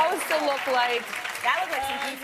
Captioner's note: applause